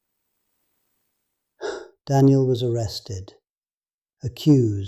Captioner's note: sighs